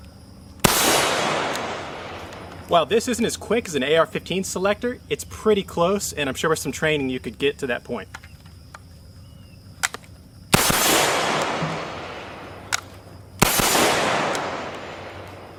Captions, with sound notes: Well this isn't as crazy in the AR15 selector, it's pretty close and I'm sure with some training you could get to that point. (fires successive shots)